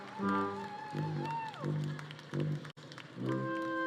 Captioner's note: audience cheering